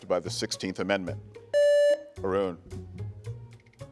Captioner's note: buzzer beeps; gentle music